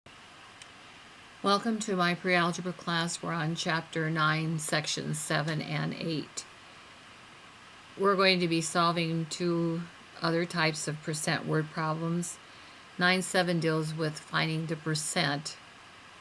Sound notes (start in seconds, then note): 1.6 voiceover